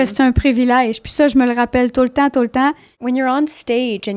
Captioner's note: in french